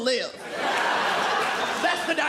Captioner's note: audience laughing